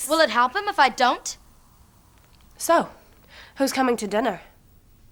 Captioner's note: none